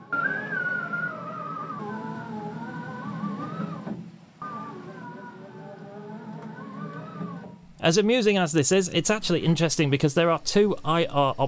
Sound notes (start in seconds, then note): 4.6 screeeeeeeeeeeeeeeee